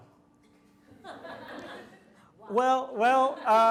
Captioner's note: audience laughs